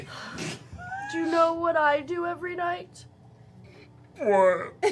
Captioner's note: sighs